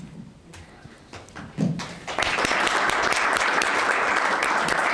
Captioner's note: applause